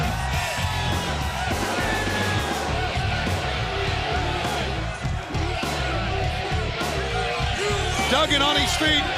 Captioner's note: crowd cheering